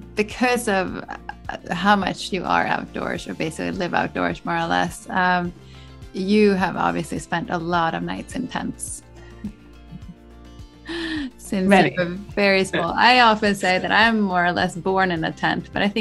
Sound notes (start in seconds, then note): 9.9 both laugh